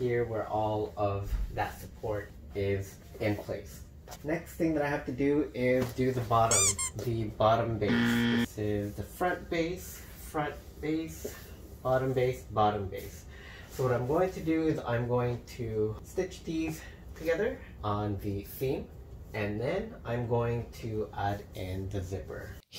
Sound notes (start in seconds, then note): 6.5 squeak noise; 7.8 buzzer noise